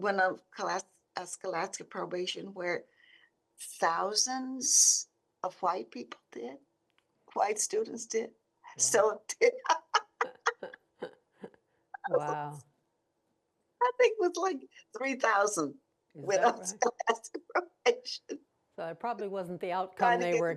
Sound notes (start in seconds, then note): 9.5 laughing